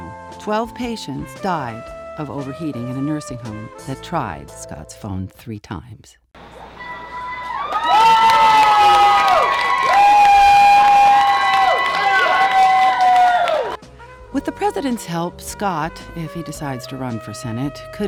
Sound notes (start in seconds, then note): 6.5 crowd Cheering